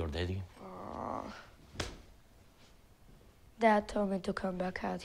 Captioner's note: Eli groans